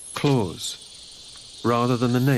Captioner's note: none